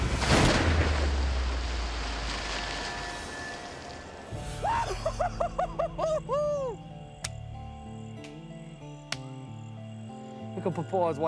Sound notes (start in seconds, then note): 0.2 gun shot; 6.1 yells